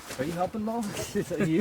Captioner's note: laugh